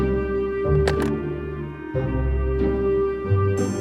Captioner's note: receiver rattles; playful suspenseful music continues